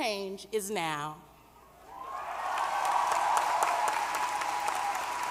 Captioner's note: applause